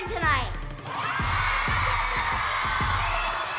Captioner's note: cheering